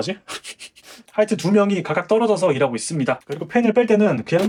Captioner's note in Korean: 콧방귀